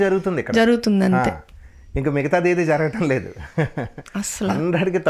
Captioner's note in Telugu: నవ్వు